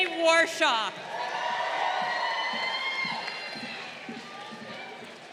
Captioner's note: crowd cheering